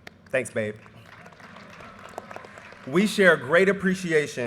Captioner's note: audience applause